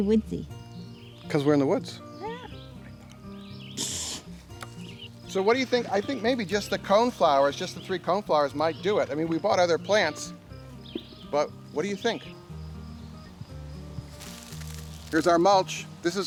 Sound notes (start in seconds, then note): 3.8 swishing; 14.0 grain scattering